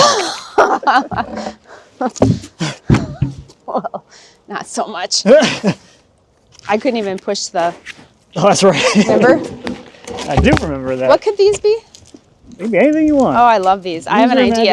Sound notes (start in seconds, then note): 0.0 laughing; 2.1 boards thudding; 3.6 chuckles; 5.3 chuckles